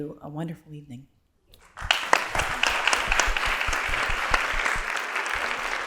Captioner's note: applause